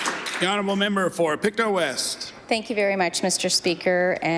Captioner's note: some Applause